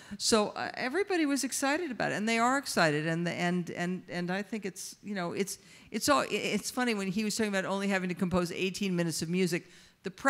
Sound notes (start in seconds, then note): none